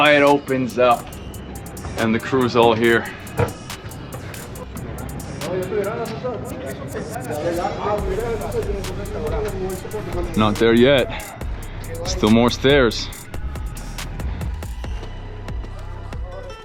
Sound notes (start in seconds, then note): 5.9 crew speaking Spanish; 13.9 lively music